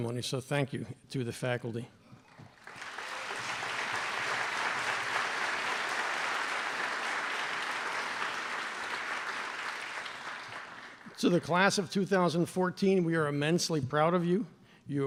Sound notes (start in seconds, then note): 2.5 applause